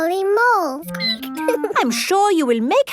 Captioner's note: squeaking